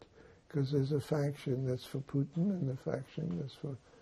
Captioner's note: none